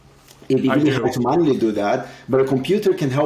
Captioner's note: speaks faintly